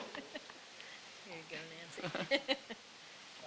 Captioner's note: chuckling